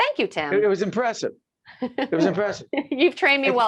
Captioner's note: laughing